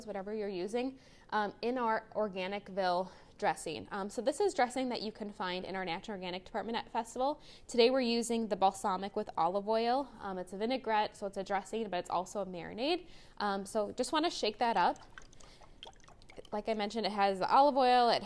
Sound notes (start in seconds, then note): 14.4 salad dressing sloshing